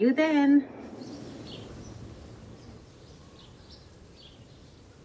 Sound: birds chirping

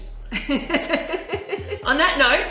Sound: laughing

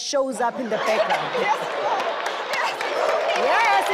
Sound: everyone laughs

